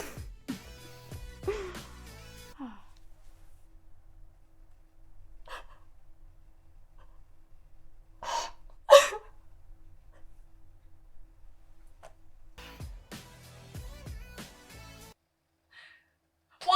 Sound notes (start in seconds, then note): 0.1 Claire chuckles; 5.6 Avery cries